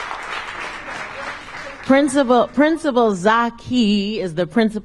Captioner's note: applause